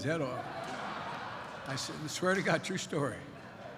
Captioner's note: laughter